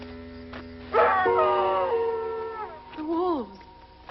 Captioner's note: wolves howling